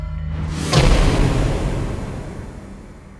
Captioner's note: slamming